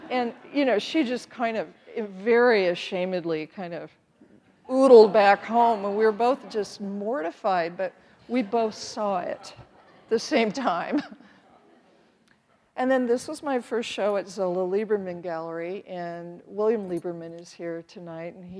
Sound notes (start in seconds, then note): 10.9 chuckles